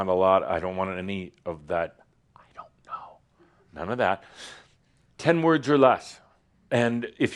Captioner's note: Adamus whispers